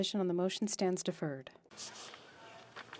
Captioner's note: speaking French